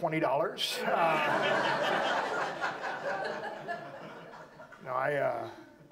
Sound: audience laughs

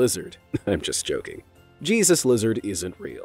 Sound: chuckles

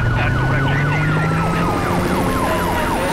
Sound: siren wailing

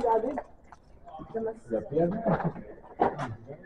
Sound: french conversation

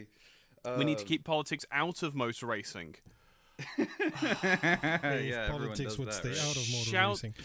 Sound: laughter

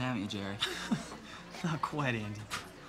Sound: Jerry laughing

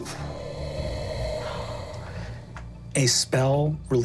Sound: mimics wind howling

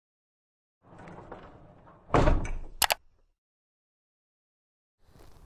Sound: clattering, thudding

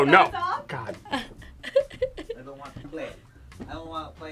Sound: laughs

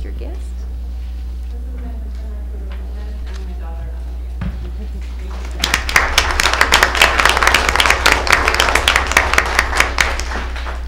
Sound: applause

